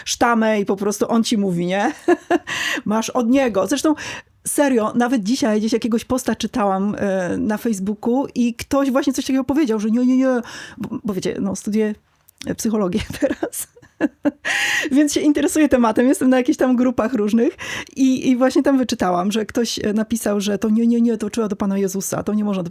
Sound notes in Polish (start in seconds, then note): 1.8 śmiech; 13.0 śmiech; 14.4 wciągnięcie powietrza